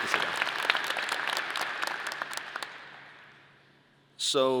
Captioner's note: audience applause